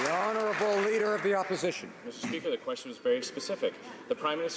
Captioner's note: applause